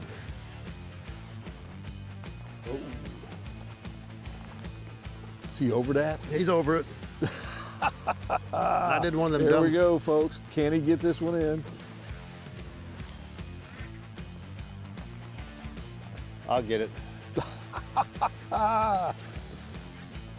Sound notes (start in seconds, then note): 0.2 upbeat music; 10.6 laughs; 12.6 upbeat music